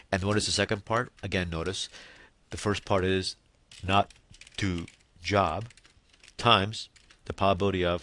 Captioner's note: typing